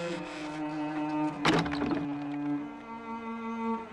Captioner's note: door shuts